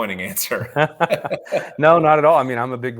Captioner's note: both laughing